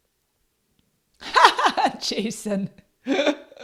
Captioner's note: laughs